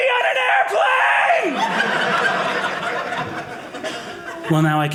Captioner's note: audience laughing